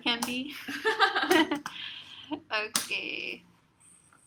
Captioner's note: laugh